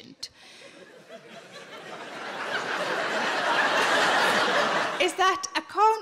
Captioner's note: audience laughing